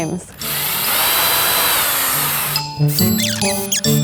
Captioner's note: drill buzzes; playful instrumental music